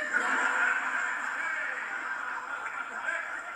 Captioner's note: canned generic laughter